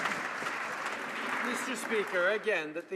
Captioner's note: some Applause